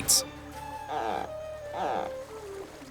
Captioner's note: low buzzing, creaking noise